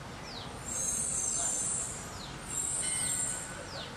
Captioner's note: Bus air brakes hissing